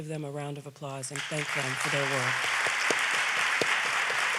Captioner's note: audience applauds